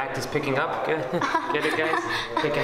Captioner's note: fake laughter